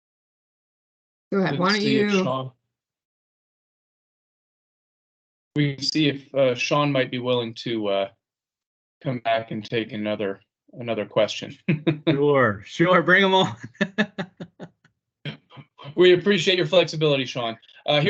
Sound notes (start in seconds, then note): 10.8 chuckles